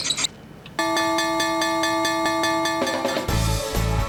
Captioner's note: winning dings; upbeat music